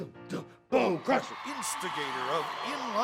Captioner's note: crowd cheering